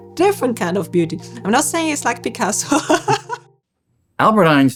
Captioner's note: laughs